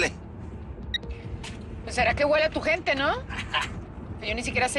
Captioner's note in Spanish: Risas